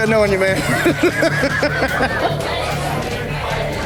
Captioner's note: laughs